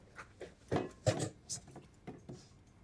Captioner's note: bowl clattering